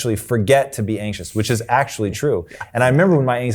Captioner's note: laughing